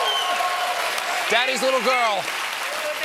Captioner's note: cheers and applause